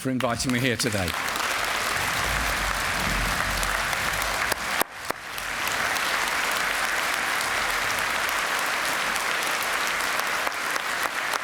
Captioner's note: applause